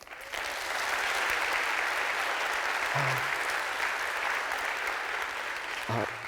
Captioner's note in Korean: 박수